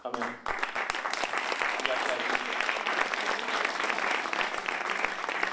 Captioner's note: applause